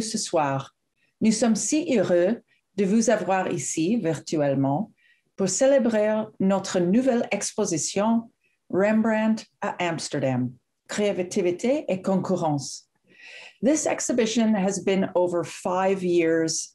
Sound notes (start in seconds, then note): 1.2 speaks french